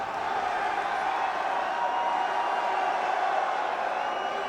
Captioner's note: crowd cheers